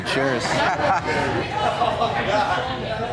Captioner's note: bar noise